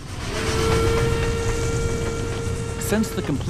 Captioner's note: whistle blowing